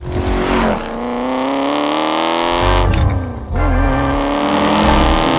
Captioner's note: engine roaring